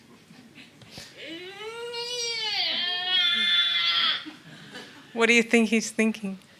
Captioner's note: Nao wails and groans